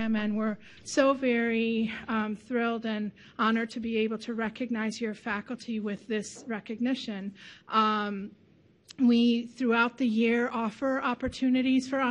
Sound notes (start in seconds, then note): none